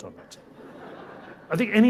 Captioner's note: people laughing